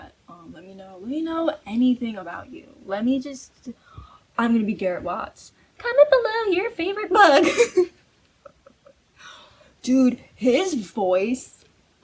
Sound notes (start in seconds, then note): 3.8 gasps; 5.8 squeaky voice